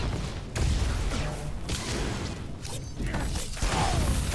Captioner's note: gunshots